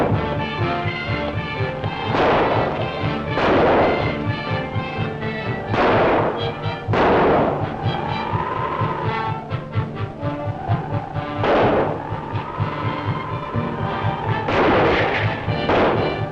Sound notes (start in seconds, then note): 3.5 gunshots; 10.2 gunshots